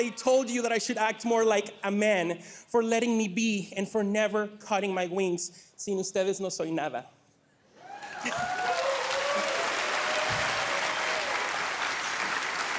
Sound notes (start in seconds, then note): 6.9 speaking Spanish; 7.8 audience cheering